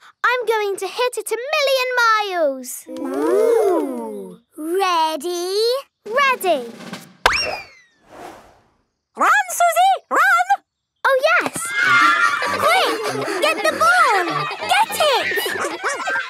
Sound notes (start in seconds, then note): 7.0 bang; 11.4 excited cheering